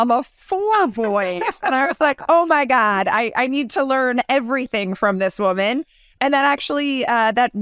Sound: laugh

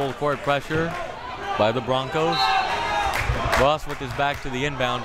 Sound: whistle tweeting

